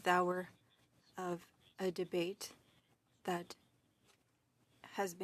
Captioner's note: speaking French